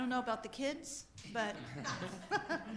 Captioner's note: group laughter